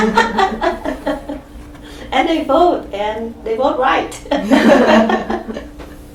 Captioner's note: all laugh; all laugh